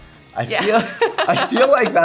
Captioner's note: laughs